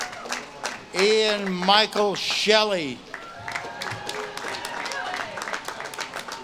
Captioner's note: audience claps and cheers